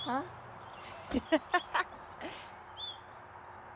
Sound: laughs

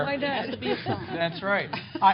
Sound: laughter

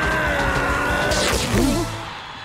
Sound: ripping

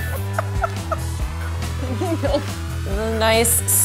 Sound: laughs

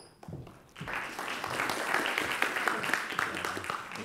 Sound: audience claps

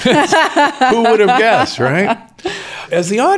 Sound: laughs

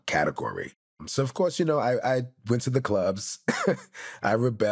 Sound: laughs

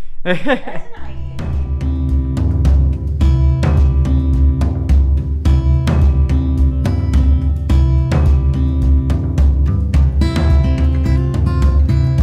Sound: laughing

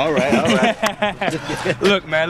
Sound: laughs

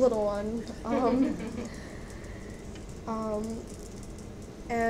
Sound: audience laughs

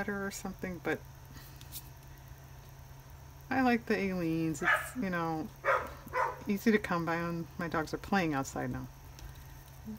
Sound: dog barks

